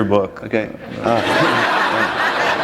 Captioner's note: laughter